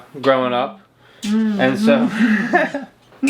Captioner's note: laughing